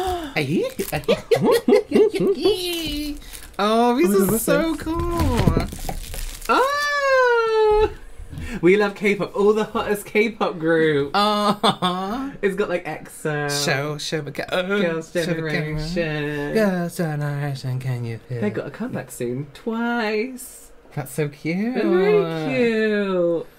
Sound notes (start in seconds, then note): 14.3 burping